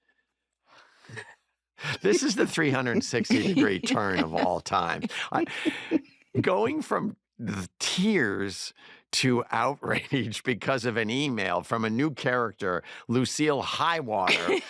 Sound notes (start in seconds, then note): 4.9 laughter